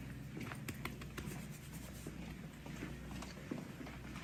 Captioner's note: hand patting